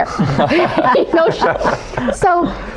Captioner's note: laughing